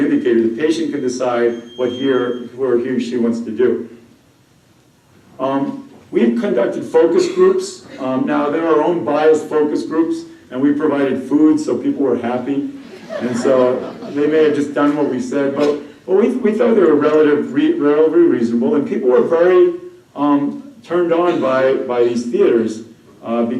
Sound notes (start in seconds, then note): 12.8 laughter